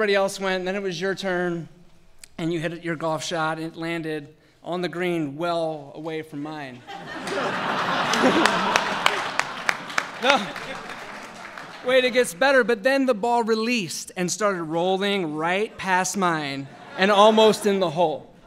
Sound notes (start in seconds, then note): 6.8 laughter and applause; 18.2 laughter